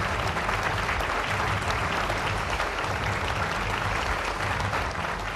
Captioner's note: applause